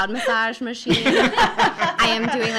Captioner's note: laughing